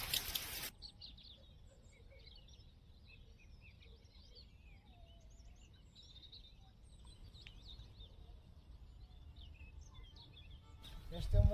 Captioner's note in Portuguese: Sons da natureza